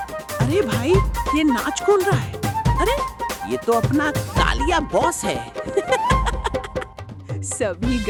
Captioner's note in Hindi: हंसी